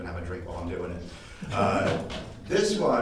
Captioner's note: audience laughing